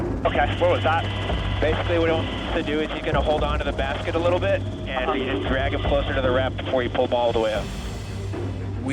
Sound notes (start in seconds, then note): 1.4 person Over Radio; 2.8 man Over Radio